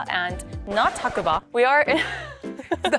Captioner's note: record scratching; giggles